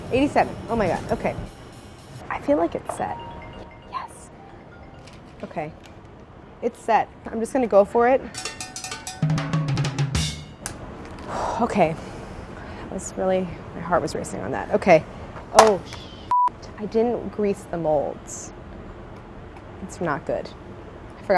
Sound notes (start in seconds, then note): 8.4 uptempo music; 11.2 sighs